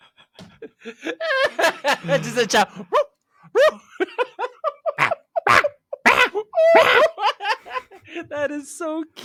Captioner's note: various barking sounds